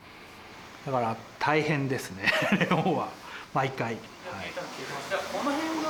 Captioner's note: iaughs